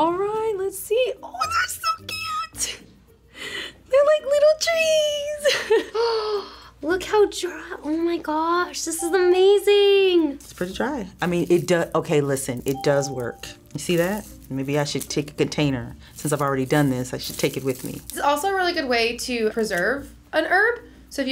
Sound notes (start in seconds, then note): 5.4 laughs; 6.1 gasps; 9.0 bell rings